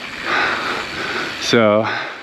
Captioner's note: bike wheel skirts